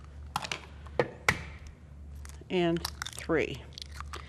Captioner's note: eggs cracking